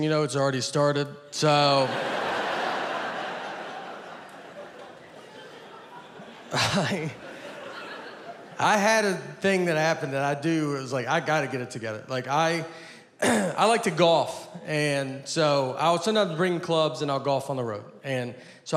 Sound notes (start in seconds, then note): 1.4 audience laughing; 13.2 clears throat